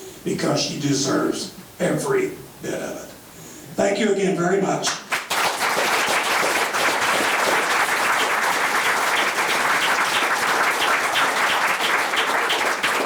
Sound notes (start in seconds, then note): 4.9 members clapping